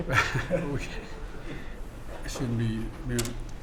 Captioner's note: laughter